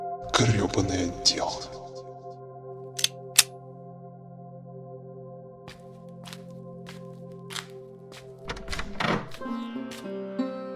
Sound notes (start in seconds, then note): 3.0 click; 5.5 steps; 8.4 the sound of doors